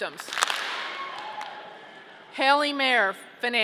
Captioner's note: audience clapping